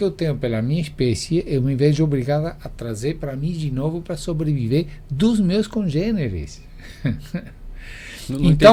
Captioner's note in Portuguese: risadas